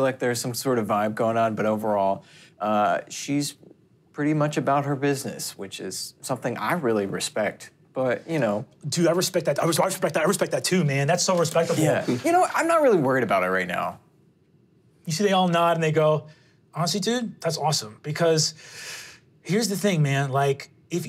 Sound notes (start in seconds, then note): none